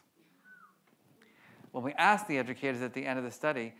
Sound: audience member whistles

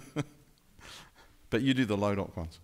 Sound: laughing

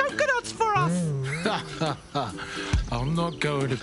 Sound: laughs

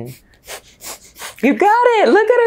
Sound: breaths fast

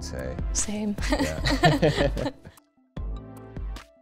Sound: both laugh; chill electronic music

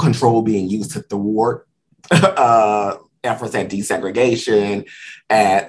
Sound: laughs

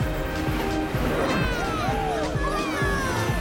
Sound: buzzing; all cheering

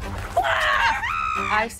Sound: screams; yells

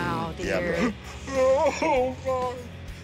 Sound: sobbing

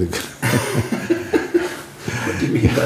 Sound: laughing

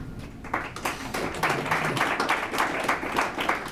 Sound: applause

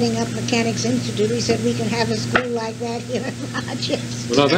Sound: laughs

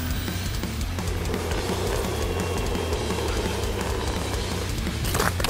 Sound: heavy metal music; wheels rolling

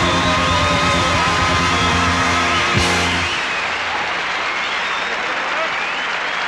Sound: audience clapping and cheering

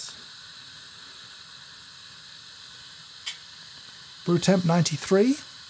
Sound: espresso machine hissing

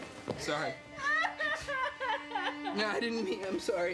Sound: crying

